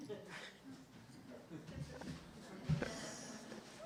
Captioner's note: laughter